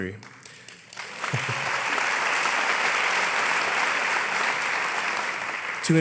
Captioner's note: applause